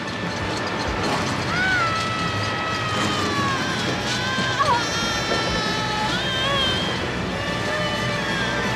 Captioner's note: berteriak